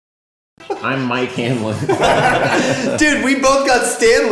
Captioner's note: laughs